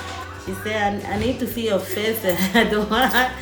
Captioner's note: laughs